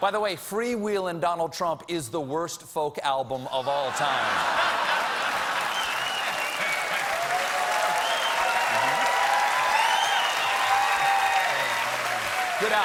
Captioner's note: cheers and applause